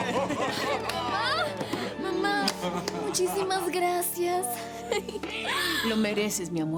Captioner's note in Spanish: Exclamaciones